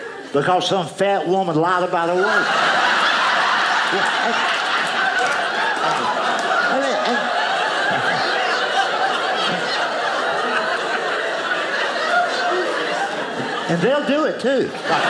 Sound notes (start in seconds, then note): 1.9 audience laughing